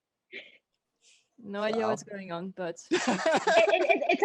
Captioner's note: all laugh